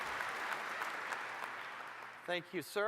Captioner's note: applause